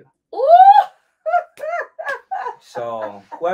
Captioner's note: laughs